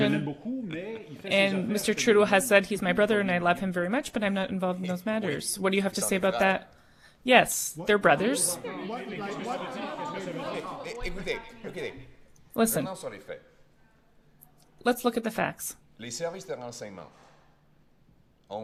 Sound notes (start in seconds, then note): 2.9 speaking French